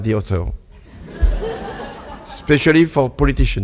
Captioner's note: audience laughs